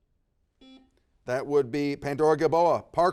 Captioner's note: buzzer dings